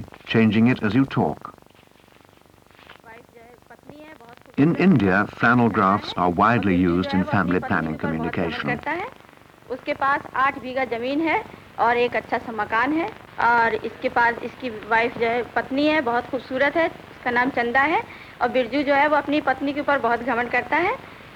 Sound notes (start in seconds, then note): 9.6 non-English speech